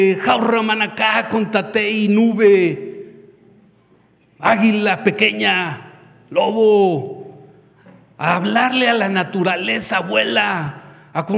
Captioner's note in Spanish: habla en wixárika